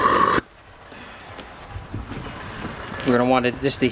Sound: fire turns off

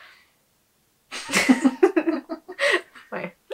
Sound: both laugh

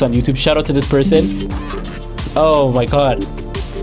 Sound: computer chiming

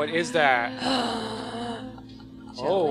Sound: scientists gasping

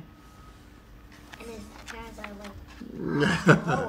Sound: laugh

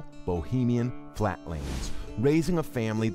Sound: air whooshes

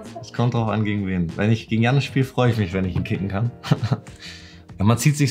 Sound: speaking foreign language

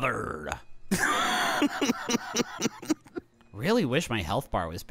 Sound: laughing

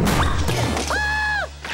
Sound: shrieking

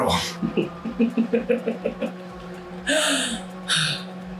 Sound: chuckles evilly

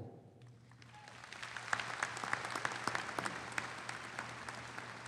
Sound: audience applauding

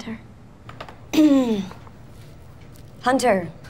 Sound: clearing throat

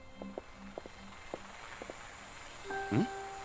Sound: soft, mysterious music; whirring

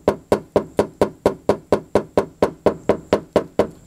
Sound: hammering

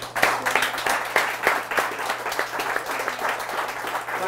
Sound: applause

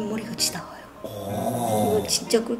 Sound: exclamation

